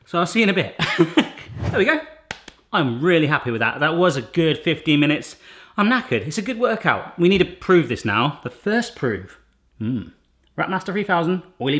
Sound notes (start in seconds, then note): 1.4 laughing; 2.3 smacking dough